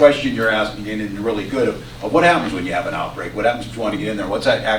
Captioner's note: off mic